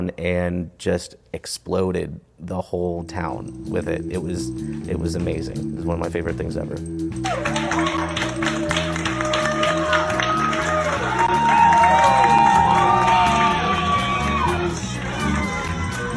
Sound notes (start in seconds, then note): 7.2 audience cheering and clapping